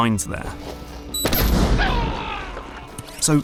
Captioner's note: boom; Colt screams